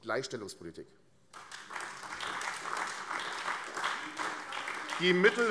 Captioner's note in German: Beifall AfD